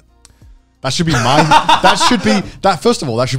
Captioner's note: laughs